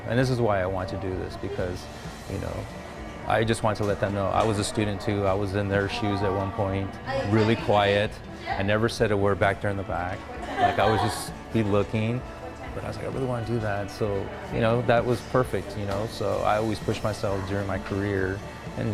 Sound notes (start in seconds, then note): 7.8 students conversing; 10.4 student laughs